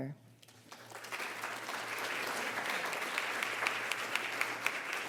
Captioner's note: audience applauds